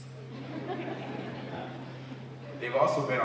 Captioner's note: laughter